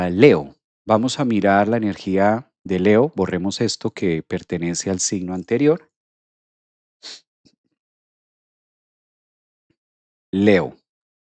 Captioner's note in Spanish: resoplido